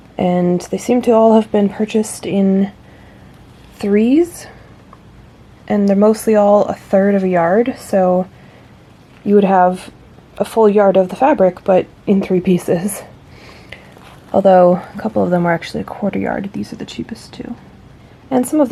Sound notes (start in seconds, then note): none